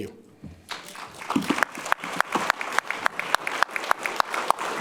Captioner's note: audience applauding